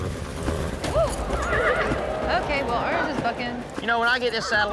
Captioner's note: horse neighing